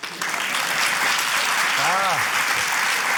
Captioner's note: applause